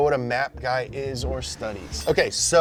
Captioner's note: air whooshing